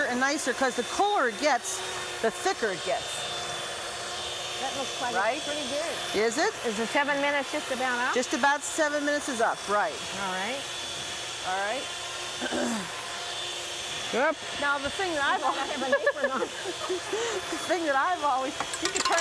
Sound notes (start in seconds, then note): 12.4 clearing throat; 15.5 both laughing